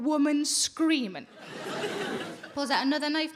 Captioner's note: audience laughing